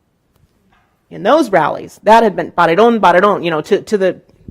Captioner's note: speaking in Spanish